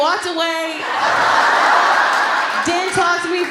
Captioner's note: laughter